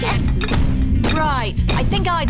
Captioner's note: feet stamping